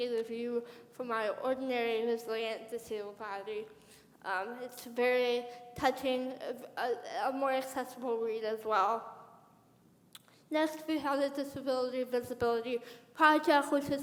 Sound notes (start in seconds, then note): none